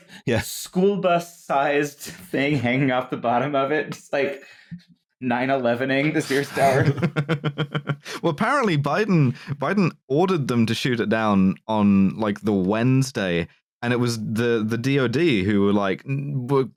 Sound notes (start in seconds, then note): 6.2 chuckles